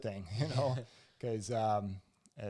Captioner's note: both laugh